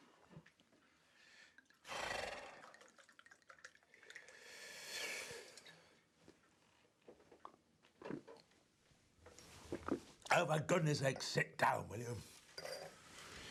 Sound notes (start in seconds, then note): 1.8 guy exhales; 1.8 wine sloshing